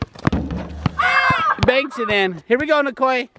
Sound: yelling

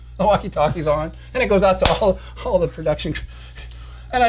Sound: laughing

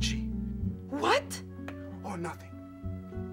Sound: exasperated

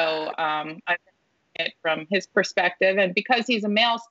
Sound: audio distorting

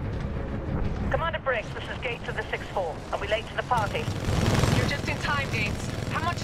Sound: radio

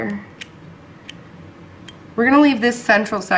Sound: clipping sounds

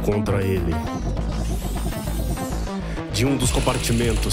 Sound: Robotic noises approaching Nic

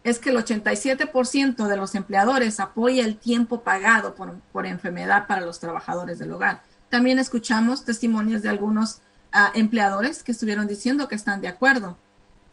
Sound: speaking spanish

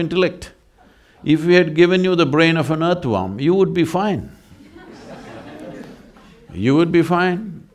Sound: laughter

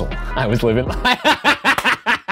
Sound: laughs

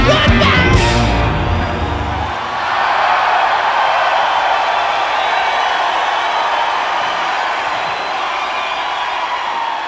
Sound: crowd applauses

